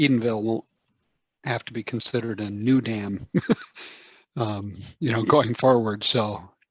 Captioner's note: chuckles